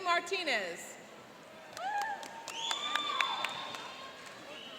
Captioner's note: cheering and applauding